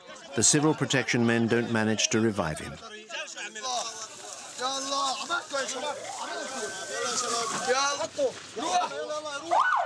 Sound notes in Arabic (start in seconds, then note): 3.0 الصوت المنطوق باللغة العربية